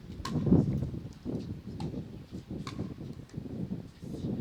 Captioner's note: wind blowing